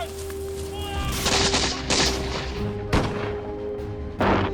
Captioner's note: gunshots firing; soldiers shouting